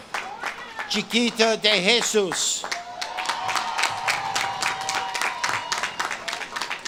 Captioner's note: audience claps and cheers